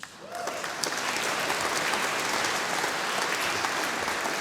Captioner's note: audience applauding